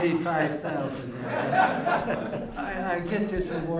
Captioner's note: laughter